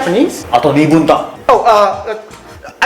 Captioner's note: panics